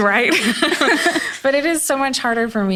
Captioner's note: laughs